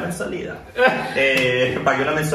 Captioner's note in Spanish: risas